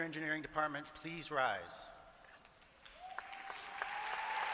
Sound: applause

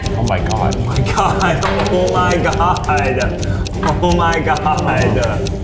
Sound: laughs

